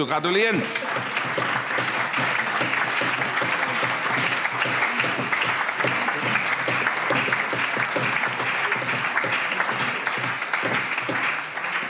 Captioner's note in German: Beifall